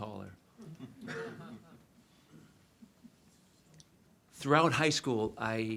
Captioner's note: audience laughs